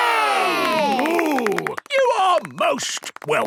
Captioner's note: applause